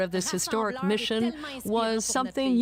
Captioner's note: speaking French